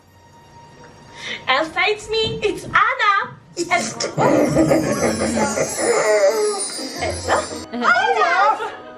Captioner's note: Olaf Laughing